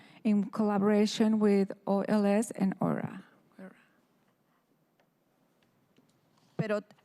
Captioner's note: speaking in spanish